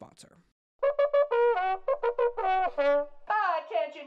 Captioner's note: trumpet horn sound